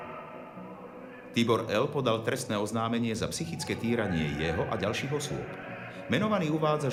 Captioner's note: voice of reporter